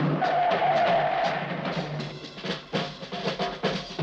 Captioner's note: tires screeching